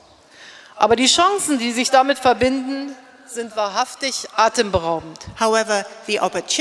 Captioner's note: speaking in German